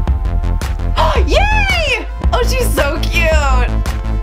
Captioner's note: gasping